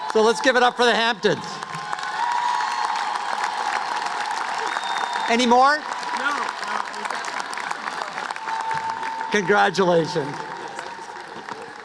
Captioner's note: cheers and applause